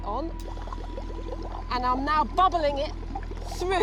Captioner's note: liquid bubbling